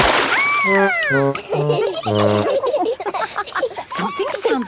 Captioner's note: all laughing